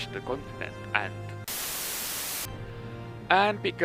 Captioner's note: static break